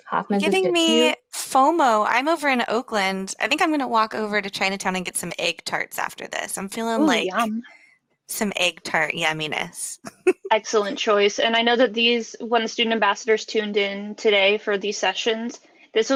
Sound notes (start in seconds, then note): 10.1 laughs